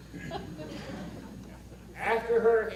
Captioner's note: audience laughter